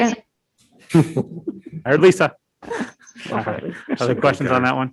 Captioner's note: all laughing